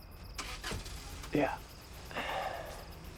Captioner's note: car engine starting; car door shuts; exhales